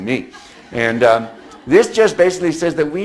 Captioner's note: audience laughs